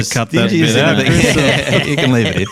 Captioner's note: all laughing